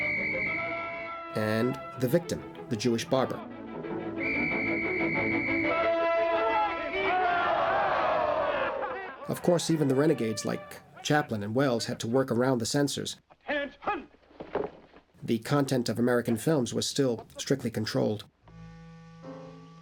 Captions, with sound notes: - [Whistle Blows] - and the victim, the Jewish barber. [Whistle Blowing] [Crowd Shouting] Of course, even the renegades like Chaplin and Welles had to work around the censors. Attention! The content of American films was still strictly controlled.